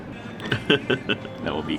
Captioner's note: laughing